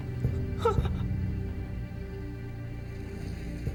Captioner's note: sobbing